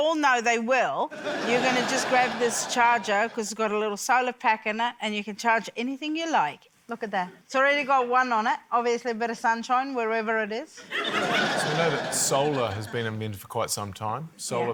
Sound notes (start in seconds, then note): 10.8 laughter